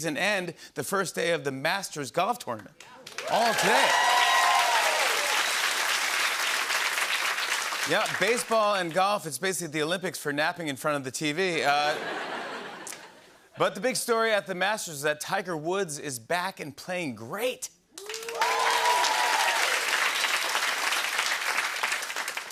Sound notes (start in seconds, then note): 3.0 cheering and applause; 11.7 laughter; 18.0 cheering and applause